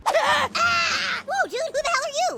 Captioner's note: kids scream